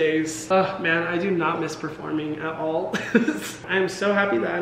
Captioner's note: laughs